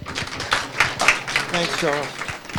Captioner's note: audience clapping